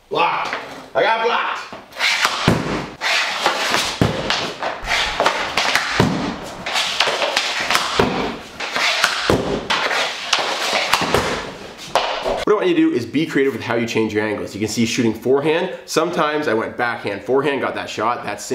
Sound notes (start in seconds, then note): 2.0 puck thuds against backdrop; 2.0 stick scrapes against floor